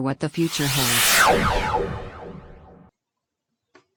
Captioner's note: disappearing sound effect